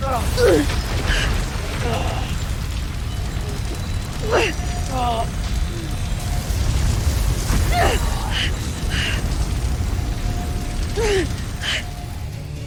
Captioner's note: reverberating chimes, spellbinding whoosh; grunts; reverberating chimes, spellbinding whoosh